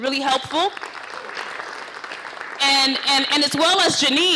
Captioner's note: applause